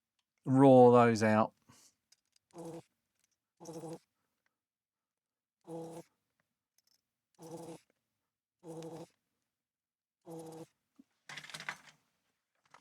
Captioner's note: silence